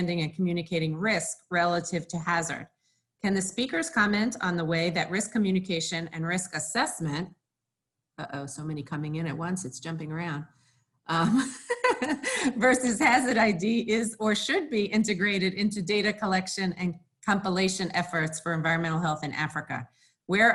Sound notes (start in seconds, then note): 11.1 laughing